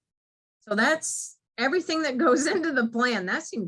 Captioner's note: chuckles